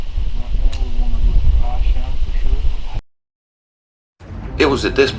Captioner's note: talking quietly together